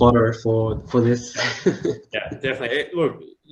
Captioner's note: laughs